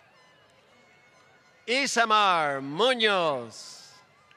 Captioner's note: applause